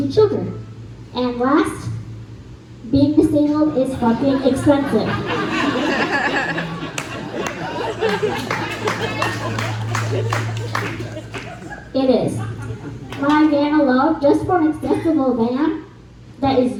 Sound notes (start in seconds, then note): 3.9 laughs and claps